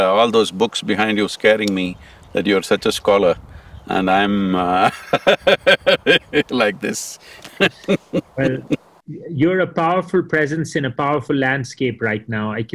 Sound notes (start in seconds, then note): 4.6 laughs